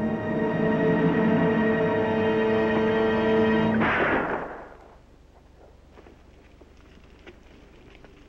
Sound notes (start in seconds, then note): 3.7 gun Shot